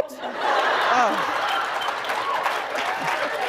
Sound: laughter

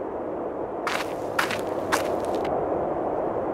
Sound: wind; footsteps

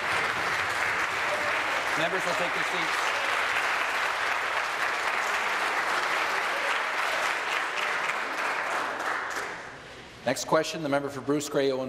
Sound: applause

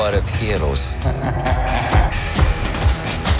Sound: evil Laugh

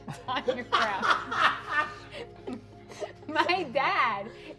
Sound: laughing

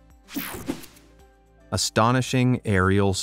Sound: air whooshing

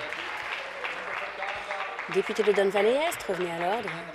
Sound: applause

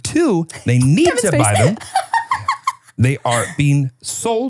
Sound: laughs

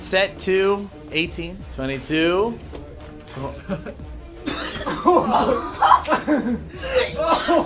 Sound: retching

